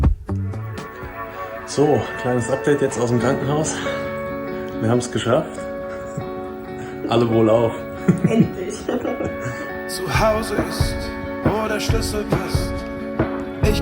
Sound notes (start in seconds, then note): 7.9 laughter